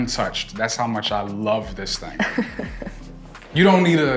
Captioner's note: laughs